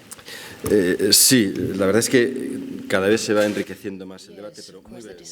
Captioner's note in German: spanisch